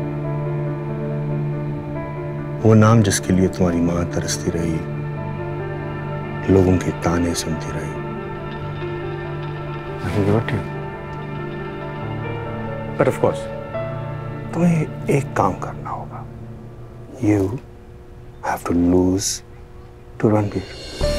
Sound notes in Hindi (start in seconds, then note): none